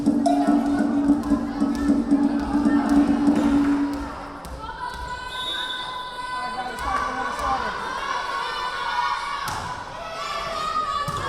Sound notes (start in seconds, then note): 5.2 whistle blowing; 9.0 yelling